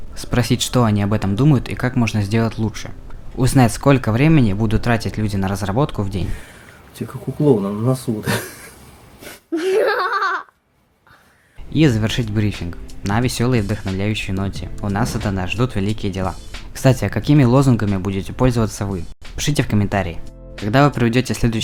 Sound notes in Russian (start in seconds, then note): 9.4 Тихий смех; 9.5 Громкий смех